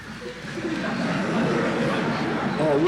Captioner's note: laughter in the courtroom